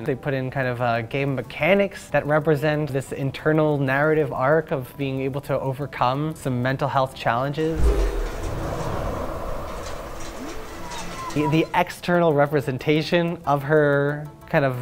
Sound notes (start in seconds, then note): 7.6 wind blows